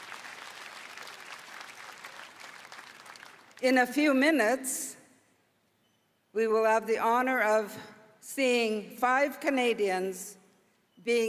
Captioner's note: applause